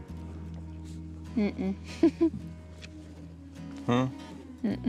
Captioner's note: chuckles